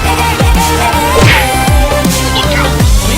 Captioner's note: crash!